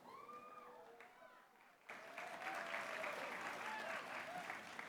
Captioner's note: applause